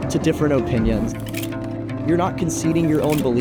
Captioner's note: slide clicks